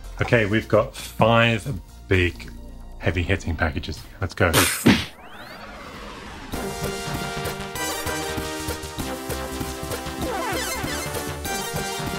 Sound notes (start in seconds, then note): 4.7 smacking; 6.9 upbeat music